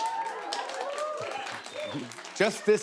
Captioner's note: light cheers and applause